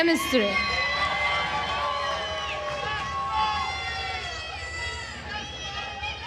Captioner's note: attendees cheering and applauding